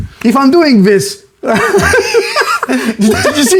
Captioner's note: both laugh